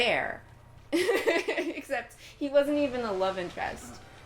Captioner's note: laughing